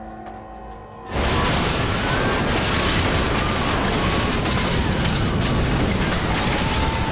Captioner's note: plane crashing; passengers screaming